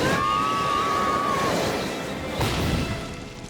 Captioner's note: both shouting